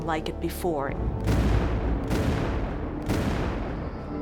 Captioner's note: cannon fire